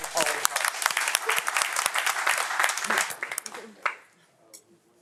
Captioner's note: audience applauding